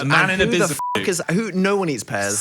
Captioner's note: beeps